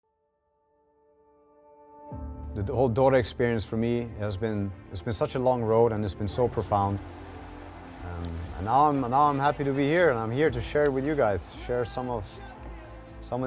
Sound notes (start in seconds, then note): 0.0 light orchestral music; 6.6 crowd cheers